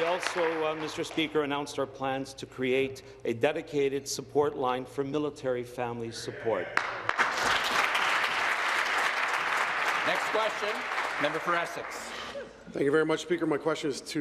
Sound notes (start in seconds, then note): 0.0 applause; 10.9 applause